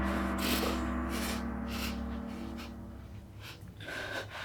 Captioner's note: Rachel quivers